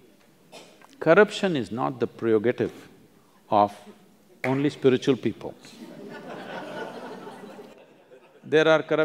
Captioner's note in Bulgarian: смях